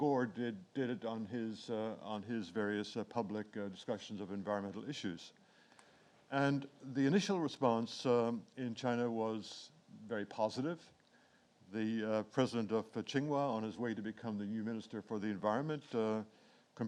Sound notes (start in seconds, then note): 12.4 speaks in foreign language